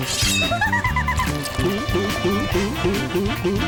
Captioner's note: energetic music; gulping